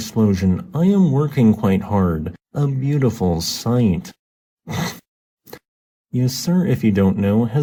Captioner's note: snickers